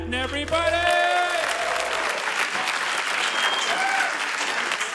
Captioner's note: applause